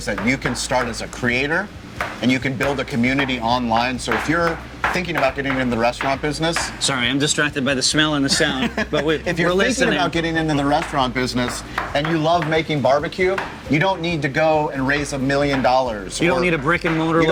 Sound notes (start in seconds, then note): 8.2 laughs